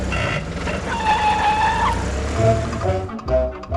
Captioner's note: brakes squealing; engine rumbling; playful music